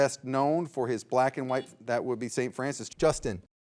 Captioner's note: signal beeps